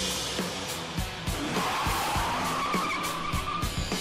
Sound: upbeat rock music playing; tires squealing; engine revving

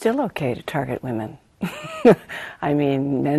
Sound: chuckles

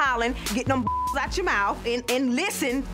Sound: beep

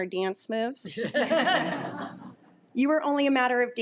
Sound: audience laughing

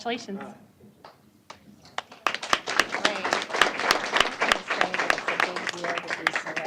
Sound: applause

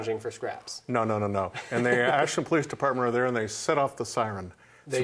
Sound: laughs

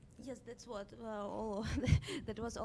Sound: voiceover

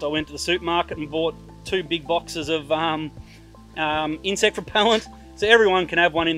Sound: giggles

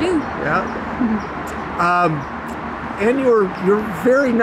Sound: chuckling

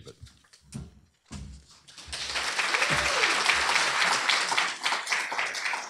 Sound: applause

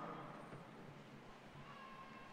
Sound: applause

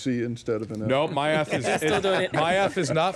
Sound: laughing

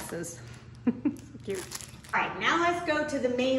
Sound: woman laughs

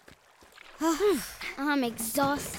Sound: sighing

